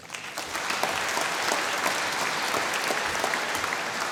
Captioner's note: applause